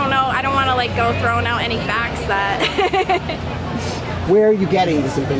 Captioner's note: laughs